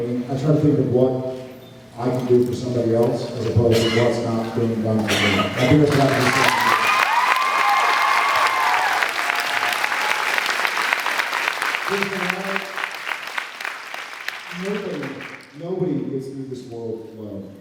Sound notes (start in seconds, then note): 6.6 cheers, applauds; 12.5 applauds